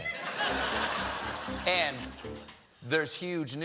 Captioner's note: laughter; piano riff